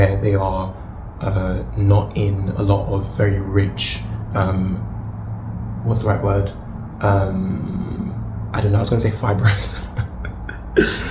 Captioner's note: laughs